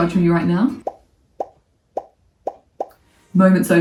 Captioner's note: bubbles popping